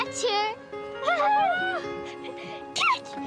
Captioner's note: cheering